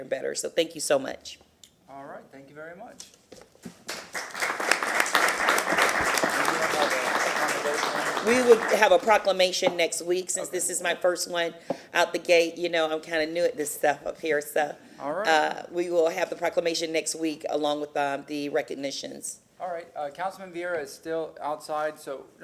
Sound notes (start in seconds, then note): 6.5 applause